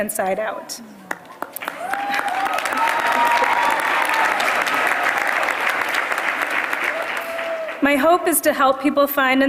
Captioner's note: applause